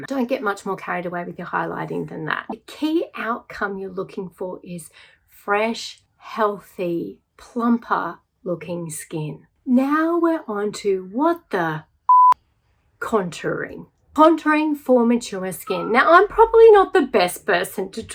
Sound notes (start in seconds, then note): 12.1 beep